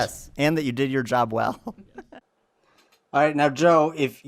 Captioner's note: laughs